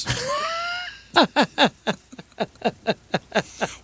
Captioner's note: laughing